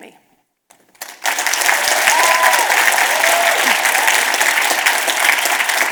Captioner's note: audience cheers and applause